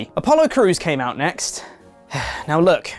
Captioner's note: sigh